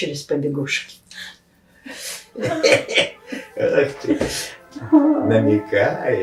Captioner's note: laughing